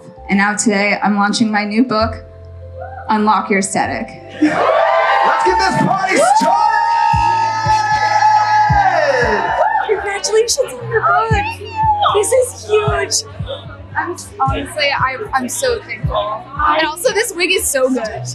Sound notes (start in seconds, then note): 4.4 audience cheering